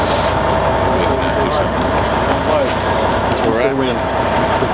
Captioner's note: men muttering